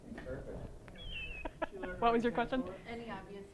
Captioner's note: laughter